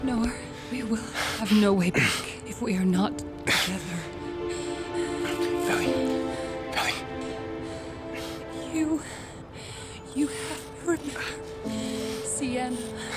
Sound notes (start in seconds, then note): 4.4 Noah gasping; 5.8 somber music